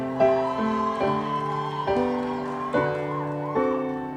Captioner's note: audience cheering